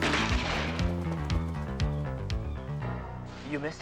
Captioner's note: gun firing